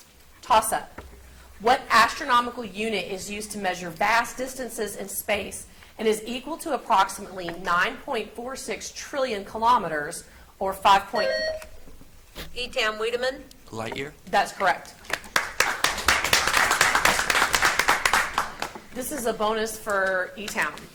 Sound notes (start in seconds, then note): 11.0 buzzer beeps; 15.0 audience applauds